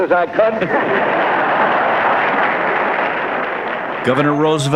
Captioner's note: laughter, Applause